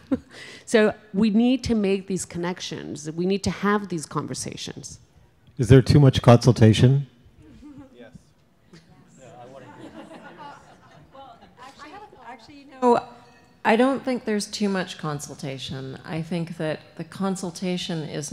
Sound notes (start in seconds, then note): 9.2 laughter